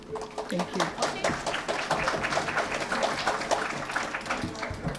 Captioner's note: applause